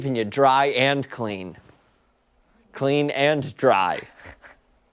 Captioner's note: laughter